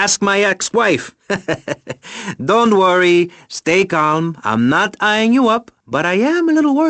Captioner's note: chuckles